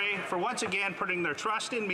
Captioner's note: applause